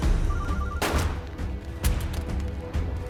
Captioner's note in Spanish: Suena el celular; Disparos